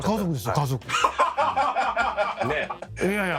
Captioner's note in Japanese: 爆笑